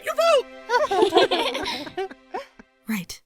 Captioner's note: chuckles